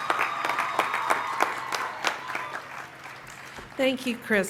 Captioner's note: applause